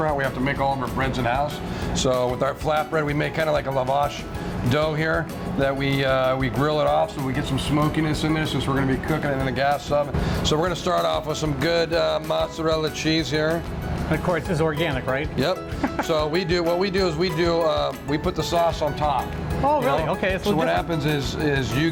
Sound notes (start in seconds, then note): 15.8 laughing